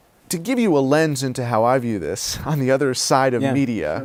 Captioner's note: laughs